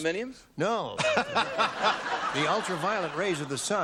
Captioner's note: laughter